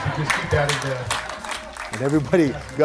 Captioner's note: audience clapping